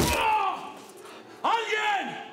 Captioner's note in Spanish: Gritos